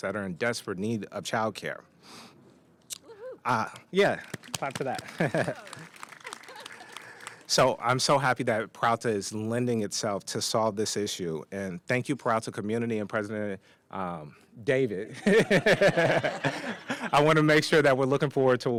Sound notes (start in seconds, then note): 4.0 applause